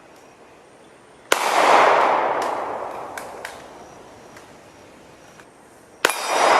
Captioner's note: gunshots